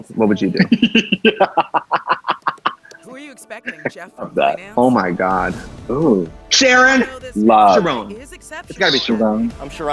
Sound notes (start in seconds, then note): 0.5 laughs